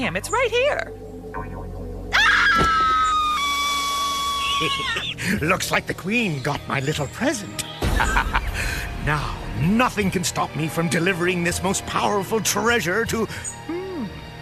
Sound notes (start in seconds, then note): 2.1 scream; 4.6 laughter; 7.9 evil laughter